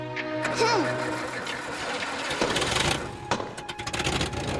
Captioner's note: engine turns over